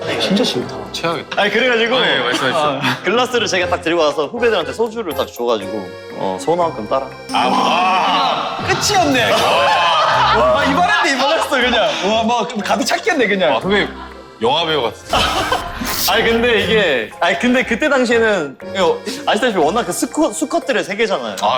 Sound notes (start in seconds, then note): 15.0 awkward laughing